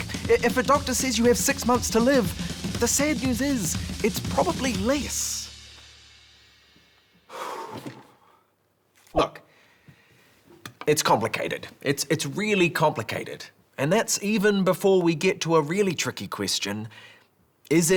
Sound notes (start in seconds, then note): 7.2 breathing heavily